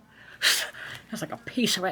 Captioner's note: mouth whooshing